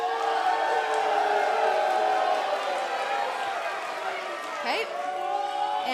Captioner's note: crowd cheering